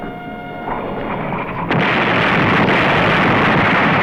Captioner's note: blast